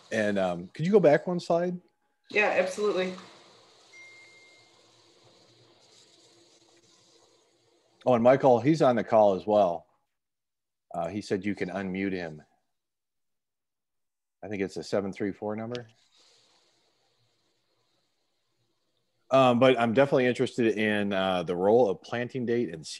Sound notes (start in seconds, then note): 3.9 phone chimes